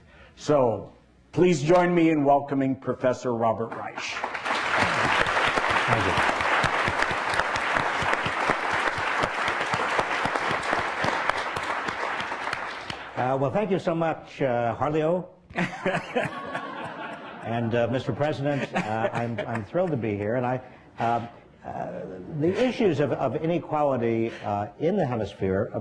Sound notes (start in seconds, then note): 4.1 applause; 15.5 laughter